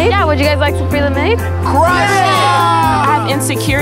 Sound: cheering

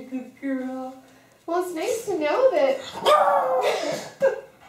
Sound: roar; laughter

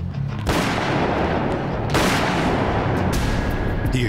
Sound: gun shots fired

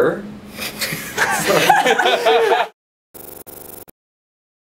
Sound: laughing

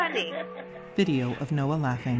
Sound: laughs

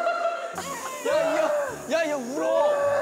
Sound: wailing

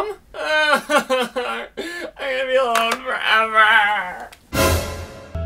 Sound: crying

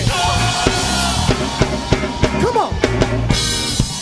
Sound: audience screaming

